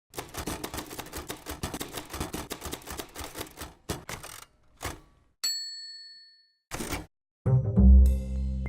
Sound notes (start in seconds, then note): 0.1 typewriter keys click; 5.4 bell clangs